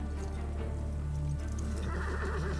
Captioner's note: horse neighing